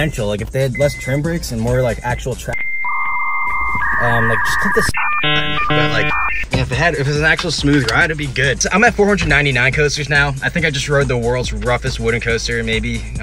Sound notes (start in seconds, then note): 2.5 modem sounds